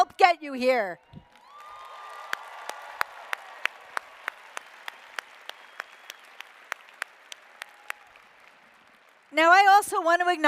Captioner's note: applause